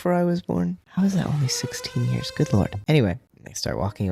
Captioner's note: siren blaring